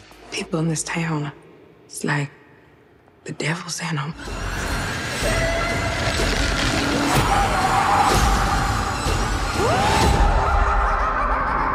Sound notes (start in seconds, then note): 4.1 scary music; 6.7 scream; 10.3 evil laughter; 11.5 scary music